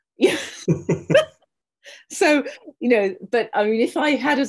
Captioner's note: laughing